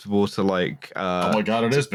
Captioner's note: keyboard tapping